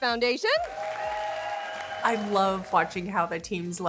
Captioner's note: all cheer